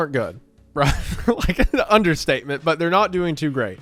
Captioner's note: laughs